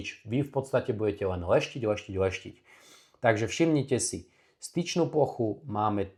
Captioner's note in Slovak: smrkanie